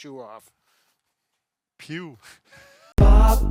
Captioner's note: laughs softly